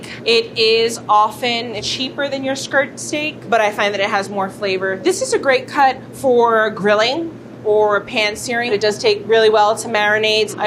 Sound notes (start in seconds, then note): none